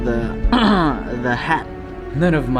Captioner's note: clears throat